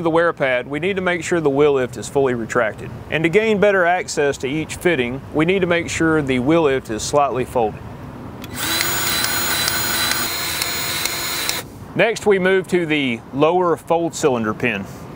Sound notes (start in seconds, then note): 8.5 grease gun revving